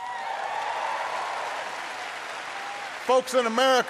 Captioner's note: applause